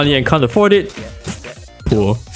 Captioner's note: pfft